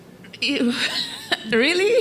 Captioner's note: laughing